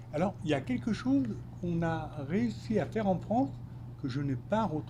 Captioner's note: speaking French